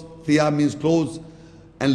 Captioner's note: Arabic